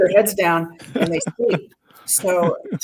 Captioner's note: interviewer laughing